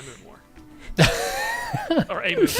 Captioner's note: laughter